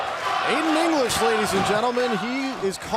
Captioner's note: crowd cheering